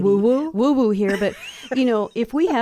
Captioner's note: laughs